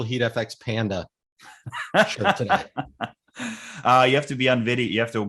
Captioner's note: laughing